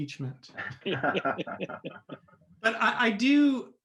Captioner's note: group laughs